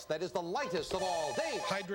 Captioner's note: buzzer